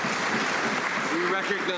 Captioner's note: some Applause